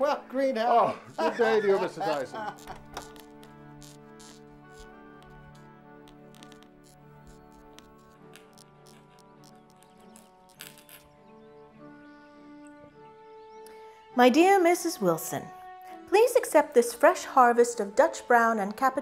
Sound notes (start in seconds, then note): 4.1 pen scratching; 7.1 soft instrumental music